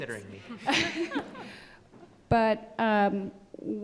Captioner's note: everyone laughs